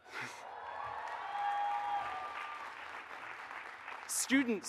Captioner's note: audience cheers and applauds